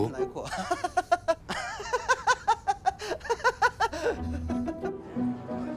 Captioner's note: laughing